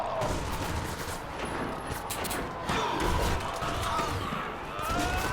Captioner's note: people fighting and screaming